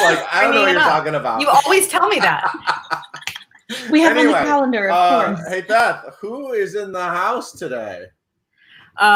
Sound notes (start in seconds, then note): 1.4 laughs